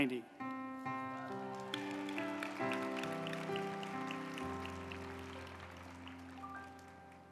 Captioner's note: uplifting music; group applauding